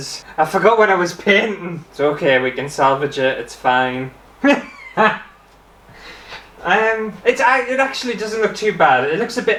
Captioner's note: laughter